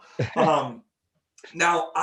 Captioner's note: laughing